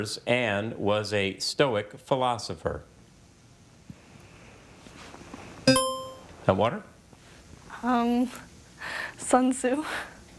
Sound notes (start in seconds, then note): 5.7 buzzer chiming